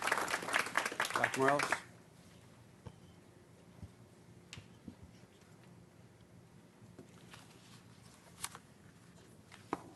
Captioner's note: applause